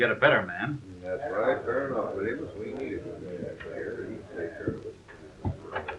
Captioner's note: everypne agreeing